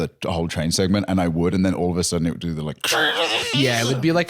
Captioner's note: screeching